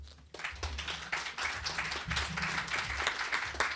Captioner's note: applause